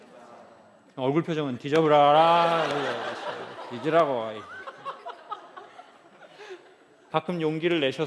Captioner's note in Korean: 웃음